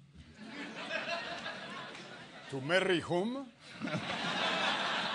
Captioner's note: laugh